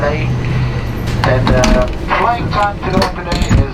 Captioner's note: clicking of aeroplane door closing